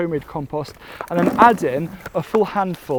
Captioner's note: compost thudding